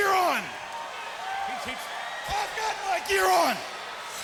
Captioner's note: crowd cheering